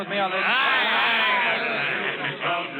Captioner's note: cheering